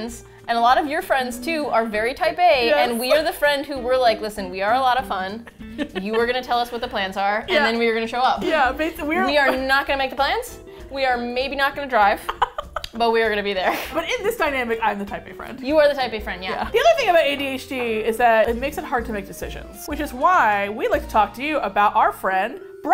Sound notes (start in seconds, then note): 12.2 laughs